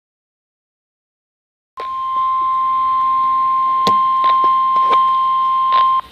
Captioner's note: 1050 hz tone